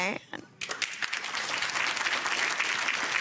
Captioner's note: clapping